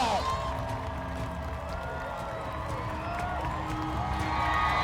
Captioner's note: crowd cheering